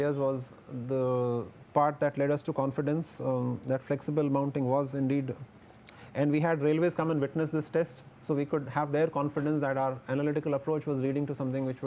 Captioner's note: air conditioning